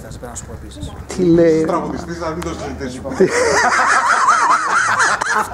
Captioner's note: laughs